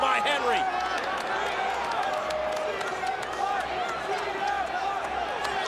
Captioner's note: crowd murmuring